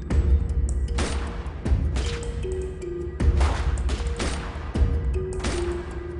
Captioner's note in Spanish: Disparos